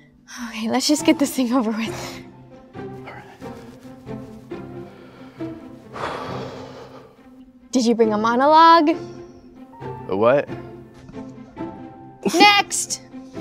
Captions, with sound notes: Okay, let's just get this thing over with. [David under his breath] Alright! [Exhales] Did you bring a monologue? A what? Next!